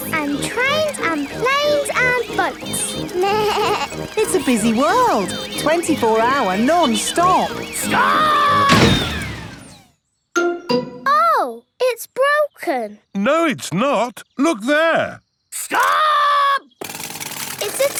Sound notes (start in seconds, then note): 3.2 bleats; 8.6 thuds